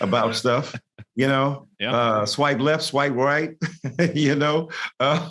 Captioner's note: laughs